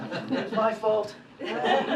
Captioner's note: laughter